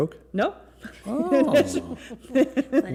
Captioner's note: laughter